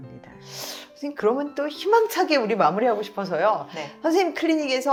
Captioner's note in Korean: 콧방귀